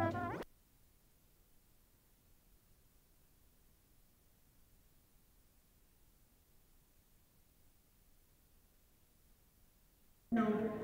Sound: no audio

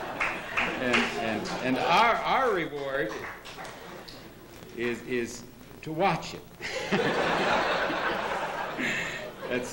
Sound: laughter; laughter

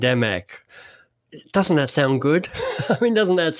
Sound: laughs

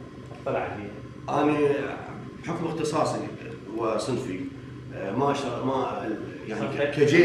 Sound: speaks Arabic

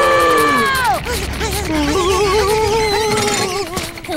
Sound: screaming; whimpering

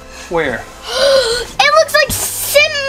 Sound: gasps

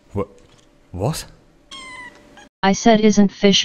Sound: mew

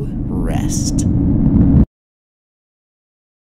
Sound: unsettling rumbling intensifies

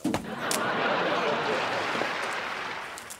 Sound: laughing

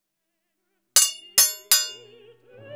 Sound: sword falls to floor

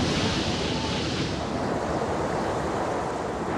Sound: lightning crashes; water rushes

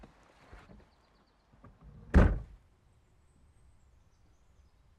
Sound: door shuts

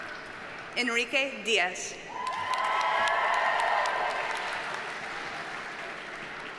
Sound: audience cheers and applauds

